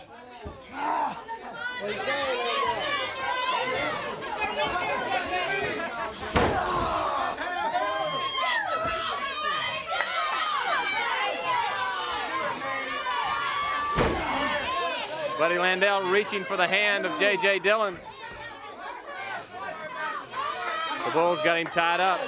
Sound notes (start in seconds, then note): 1.3 crowd chatter